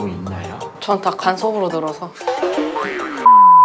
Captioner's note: haha